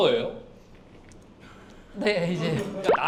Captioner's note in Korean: 꿀꺽꿀꺽